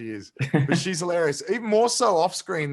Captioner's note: laughs